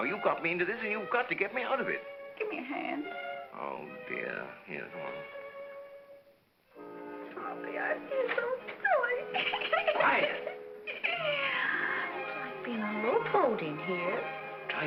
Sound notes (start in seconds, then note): 9.2 Gail laughs; 9.3 Gail giggles